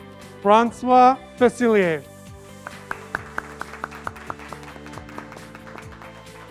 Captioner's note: graduates clapping